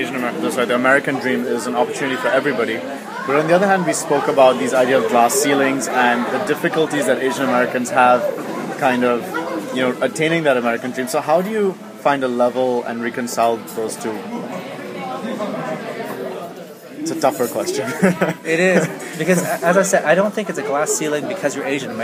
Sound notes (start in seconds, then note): 17.6 laughs